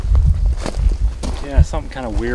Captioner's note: footsteps trudging